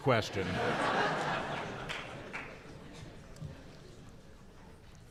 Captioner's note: audience laughing